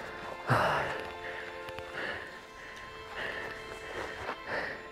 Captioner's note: breathing heavily